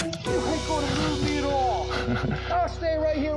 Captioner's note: laughs